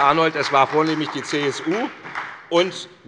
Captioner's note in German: Beifall bei der SPD